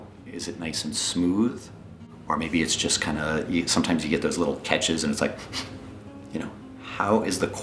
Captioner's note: sniff sniff